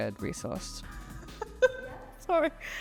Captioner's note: laughs